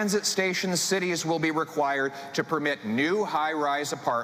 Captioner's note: speaking French